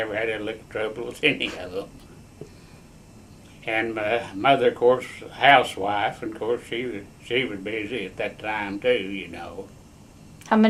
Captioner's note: laughs